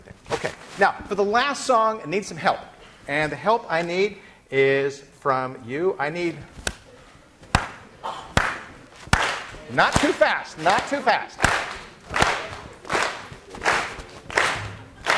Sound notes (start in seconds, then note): 7.3 begins clapping rhythmically; 9.1 class clapping throughout song